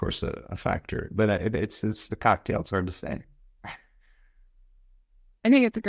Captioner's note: chuckles